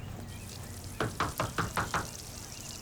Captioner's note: knocking on door